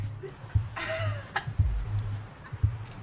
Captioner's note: Lebona laughs